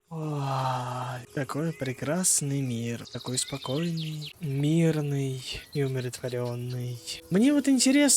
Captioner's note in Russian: вздыхает